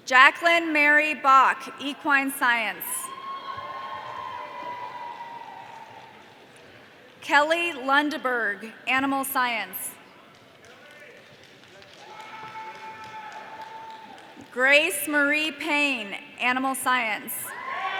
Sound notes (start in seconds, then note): 3.0 audience cheering; 11.7 audience applause